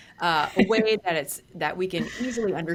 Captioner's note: laughs